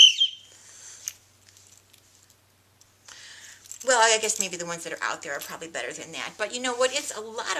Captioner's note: whistle